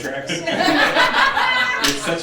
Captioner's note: laughing